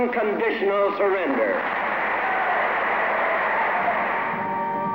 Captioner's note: applause